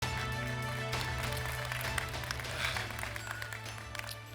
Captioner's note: applause